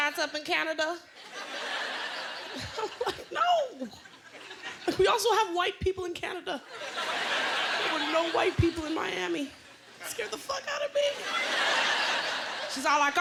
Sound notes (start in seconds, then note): 1.2 laughter; 11.0 laughter